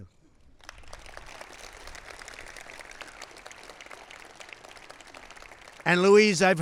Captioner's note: applause